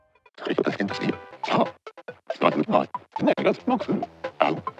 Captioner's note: speaks in foreign language